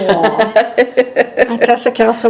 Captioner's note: laughing